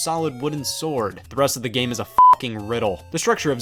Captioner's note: beep